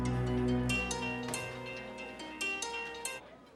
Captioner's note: phone rings